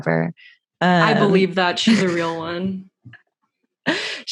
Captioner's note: laughs